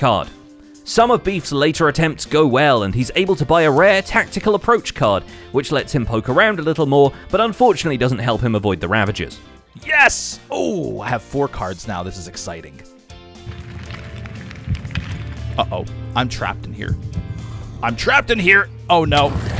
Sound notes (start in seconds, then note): 12.9 dungeon noises; 19.4 Ravager snarls